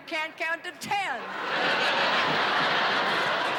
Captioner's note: laughter